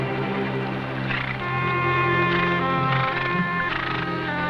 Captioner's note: horses snorting